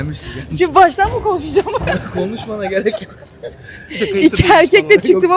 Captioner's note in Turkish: kahkaha